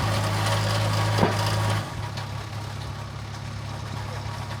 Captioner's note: engine humming continues; wood clunking; engine humming